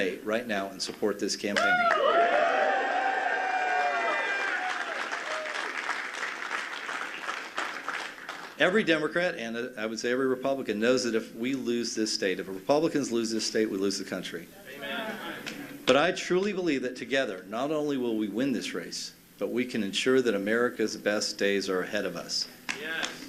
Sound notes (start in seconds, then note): 9.4 cheers and applause